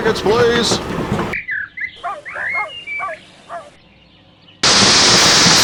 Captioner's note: birds tweeting; dog barking; locomotive engine hisses